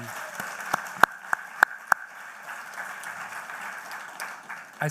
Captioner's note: applause